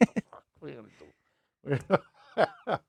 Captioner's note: laughing